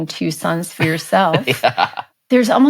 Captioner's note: chuckles